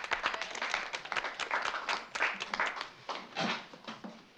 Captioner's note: polite Applause